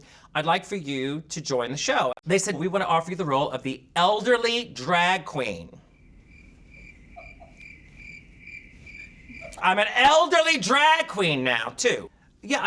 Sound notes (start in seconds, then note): 5.8 crickets chirping; 7.1 person Off Camera laughing